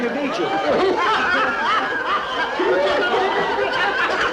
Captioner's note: men laughing